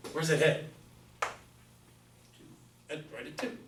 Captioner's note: voiceover